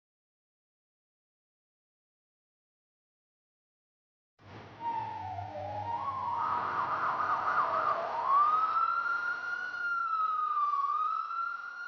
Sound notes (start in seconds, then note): none